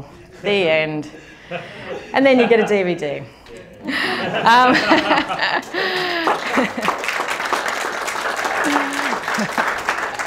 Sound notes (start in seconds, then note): 3.9 laughter & applause